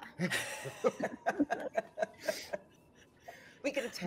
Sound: group laughing

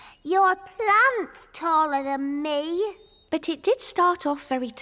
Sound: sighs

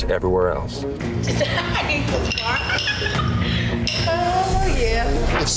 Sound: laughs

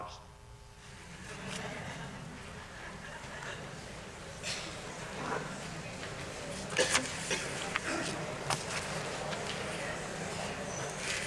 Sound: laughter

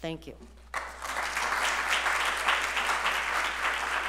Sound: applause

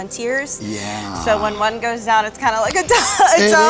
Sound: laughs

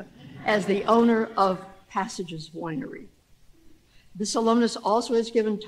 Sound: laughter

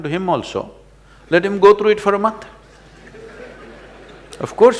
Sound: laughter

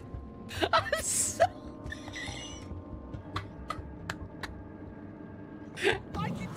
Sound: wheezing

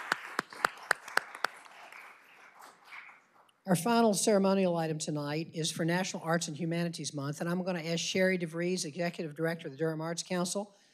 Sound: applause

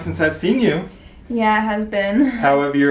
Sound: chortles

